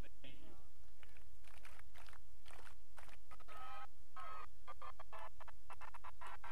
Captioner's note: audience applauds and cheers